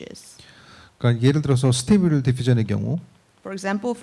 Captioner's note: speaking korean